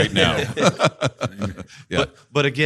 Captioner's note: all laughing